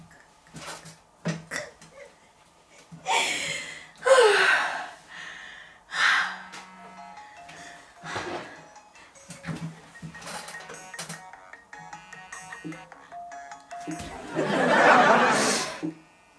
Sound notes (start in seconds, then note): 3.1 out of breath; 6.4 phone is ringing